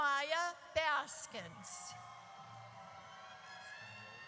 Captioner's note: audience cheers